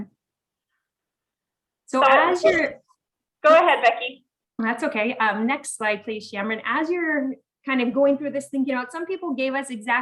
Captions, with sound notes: (woman chattering) Go ahead, Becky. - That's okay, next slide, please Shamran. As you're kinda going through this, thinking out